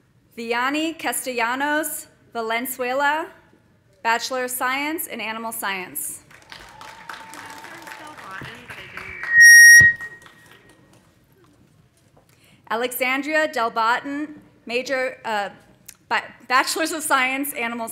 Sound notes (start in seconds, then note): 6.2 audience applauding; 6.4 audience cheering; 8.2 woman chattering